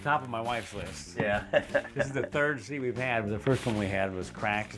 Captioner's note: chuckles